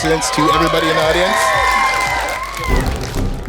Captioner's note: cheering